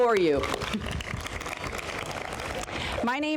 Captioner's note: applause